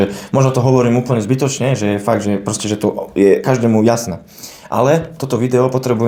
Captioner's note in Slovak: smrkanie